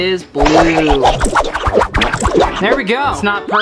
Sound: whooshing

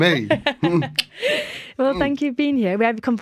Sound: laughter

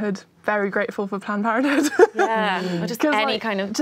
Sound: laughs

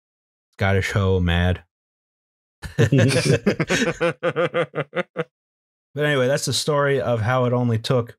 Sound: laughter

